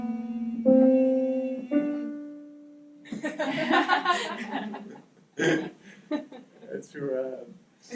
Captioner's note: laughter